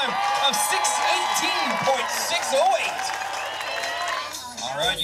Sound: applause

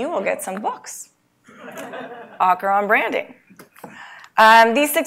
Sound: laugh

